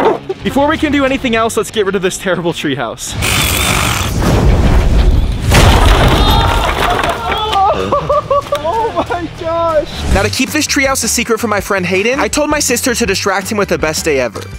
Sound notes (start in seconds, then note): 3.1 saw whirring; 5.4 wood clattering; 6.2 group shouting; 6.9 laughs